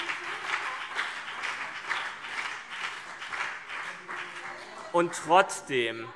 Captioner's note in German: Beifall BÜNDNIS 90/DIE GRÜNEN - Zurufe